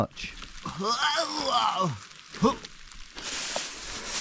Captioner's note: groans